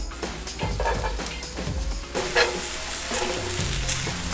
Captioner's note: upbeat music; sizzling sound